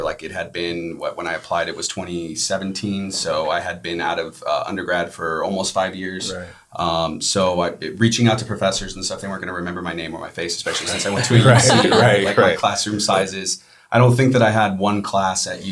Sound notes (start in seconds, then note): 10.6 all laughing